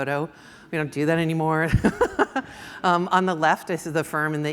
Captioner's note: laughs